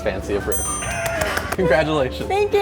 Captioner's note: clapping